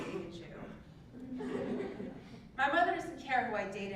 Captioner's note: laugh